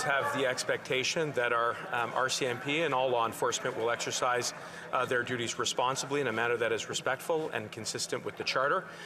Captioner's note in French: voix de l'interprète